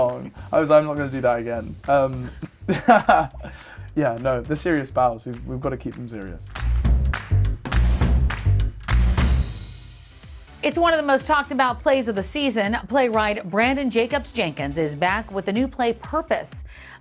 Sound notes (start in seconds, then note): 2.6 laughing